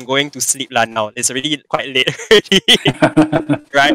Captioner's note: laughs